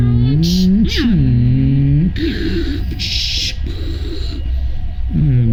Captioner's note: both making space noises